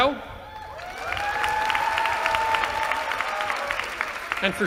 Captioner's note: cheering